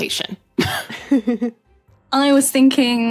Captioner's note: both chuckle